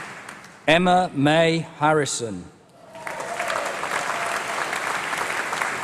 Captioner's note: applause; applause